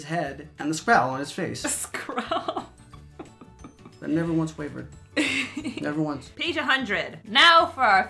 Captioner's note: laughs